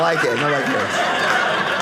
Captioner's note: audience laughing